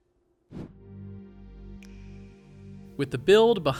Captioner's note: screen whooshes